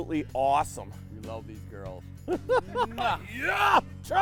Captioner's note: talking low; laughing